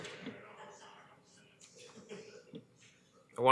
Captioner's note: laughter